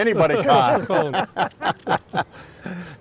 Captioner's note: laughing